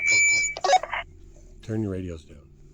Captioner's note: radio chirps